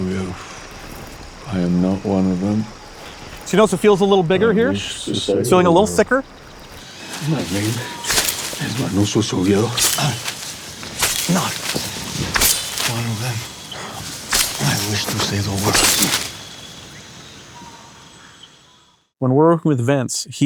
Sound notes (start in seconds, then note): 0.3 fauna chirping and chittering; 7.4 leaves rustling; 9.9 grunts and mumbles; 10.8 blade swishing; 10.8 leaves rustling; 15.7 blade swishing; 15.7 leaves rustling; 16.5 fauna chirping and chittering